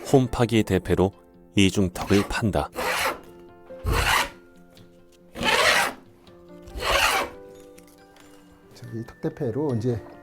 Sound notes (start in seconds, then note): 2.7 planing sound